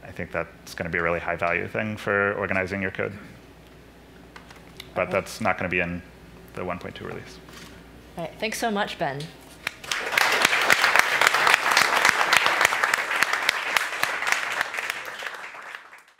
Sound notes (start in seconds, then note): 9.7 applause